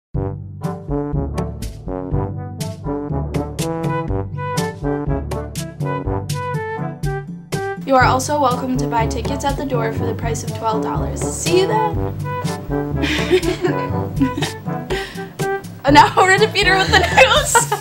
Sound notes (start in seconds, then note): 13.0 laughter